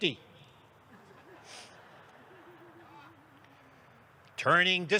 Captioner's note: audience laughs